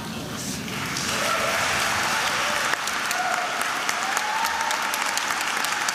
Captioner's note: attendees laughing; attendees applauding and cheering